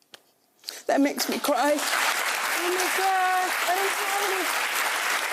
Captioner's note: audience applauding